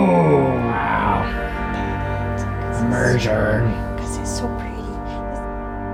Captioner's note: whispering